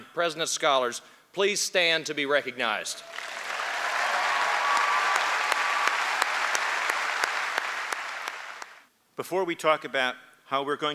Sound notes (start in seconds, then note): 3.0 applause; 6.5 cheering